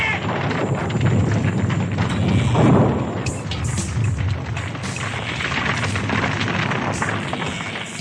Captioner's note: SFX: cave collapsing